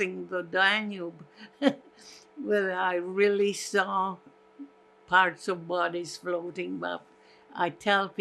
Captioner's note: laughing